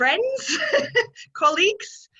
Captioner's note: laughing